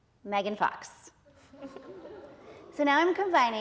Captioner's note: audience laughing